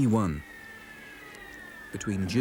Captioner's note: rocket whistles